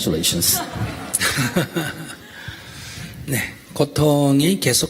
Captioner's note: audience/ Laughter